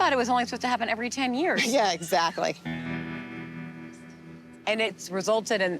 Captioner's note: laughing